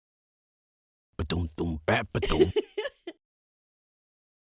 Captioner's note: happy giggle